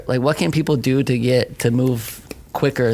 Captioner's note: fingers snapping